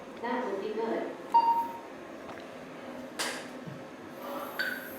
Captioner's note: beeps